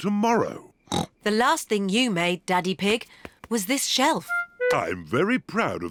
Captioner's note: snorts